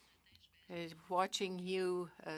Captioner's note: speaking French